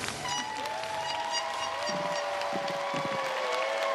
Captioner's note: crowd cheers